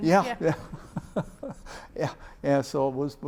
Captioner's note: laughs